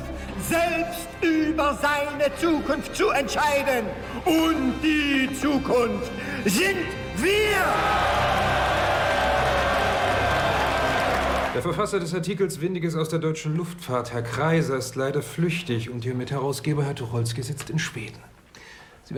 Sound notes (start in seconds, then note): 7.2 cheers and applause